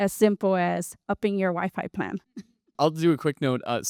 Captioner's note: chuckles